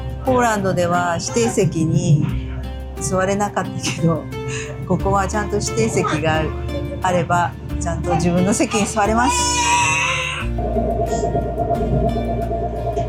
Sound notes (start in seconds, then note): 8.9 laughs